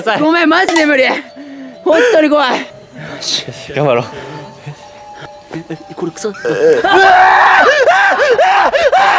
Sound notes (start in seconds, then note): 6.8 scream